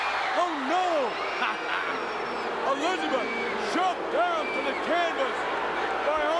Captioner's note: laugh